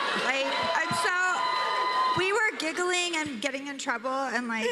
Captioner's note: cheers and applause